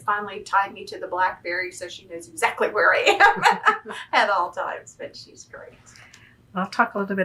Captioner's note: laughs